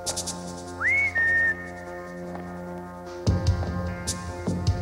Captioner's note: Rick whistles